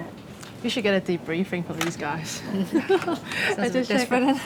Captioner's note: laughs